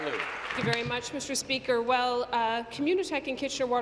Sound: applause

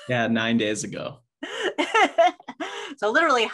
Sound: laughs

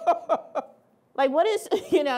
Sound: laughing

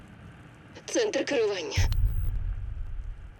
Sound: woman, over radio

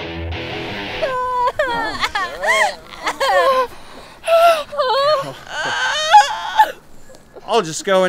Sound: crying

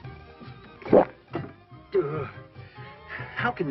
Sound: gulping

